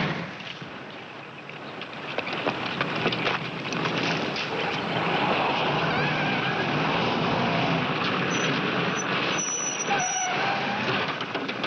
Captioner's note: gunshot